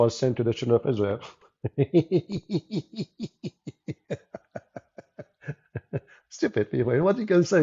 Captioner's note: Ketawa